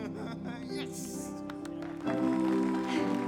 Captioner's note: crowd applauds